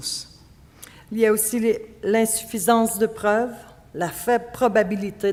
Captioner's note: speaking French